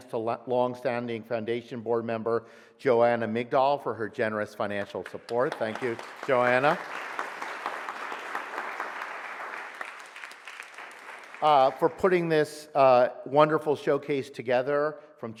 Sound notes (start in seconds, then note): 7.3 audience applauds